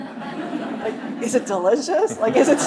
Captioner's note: audience laughing